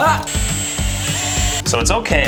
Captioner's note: drilling noise